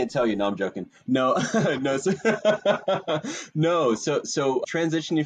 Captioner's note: laughing